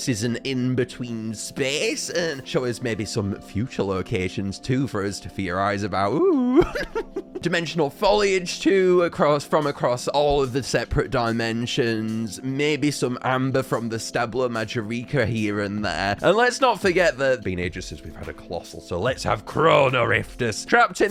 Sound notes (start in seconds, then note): 6.2 Minecraft Witch Laugh